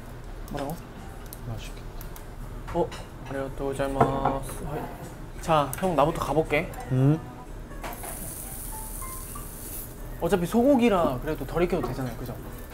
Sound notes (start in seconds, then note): 7.8 sizzle